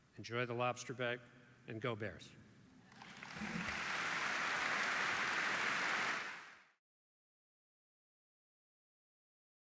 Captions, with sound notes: Enjoy the lobster bake, and go Bears. (audience applauds)